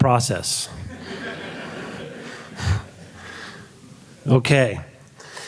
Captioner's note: audience laughing